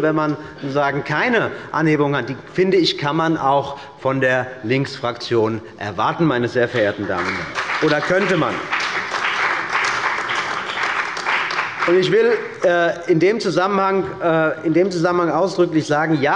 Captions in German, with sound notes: wenn man keine Preisanhebung hat –, kann man auch von der Linksfraktion erwarten, oder man könnte das. (Beifall bei Abgeordneten der CDU und bei dem BÜNDNIS 90/DIE GRÜNEN) In diesem Zusammenhang will ich ausdrücklich sagen: